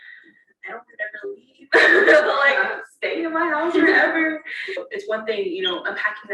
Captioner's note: laughter